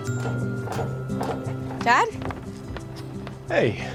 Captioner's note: footsteps approaching